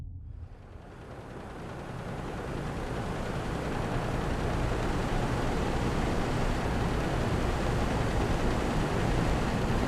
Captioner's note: noisy, rumbling air conditioner